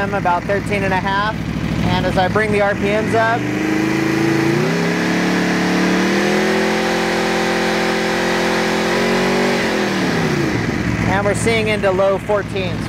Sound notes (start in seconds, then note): 3.8 motorcycle engine revving